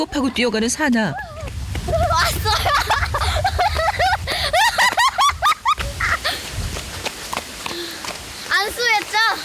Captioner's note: laughs